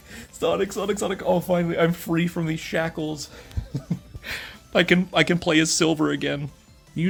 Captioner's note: chuckles